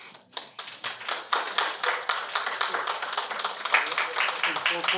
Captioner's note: applause